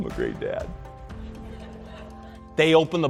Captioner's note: audience laughter